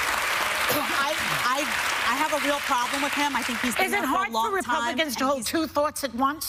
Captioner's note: applause